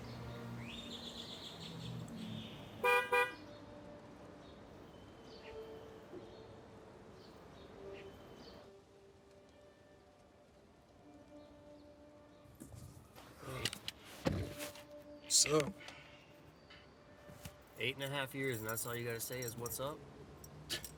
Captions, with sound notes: (horn honks) - Hey. What's up? - Eight and a half years, and that's all you gotta say is, what's up?